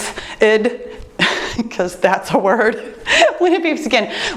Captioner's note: laughs